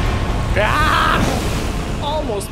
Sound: frenzied yell

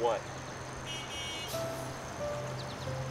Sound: bus Honk

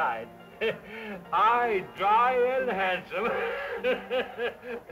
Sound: laughs

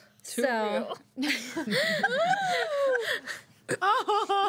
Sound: girls laughing

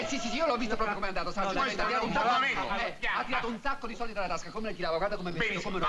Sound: speaking italian

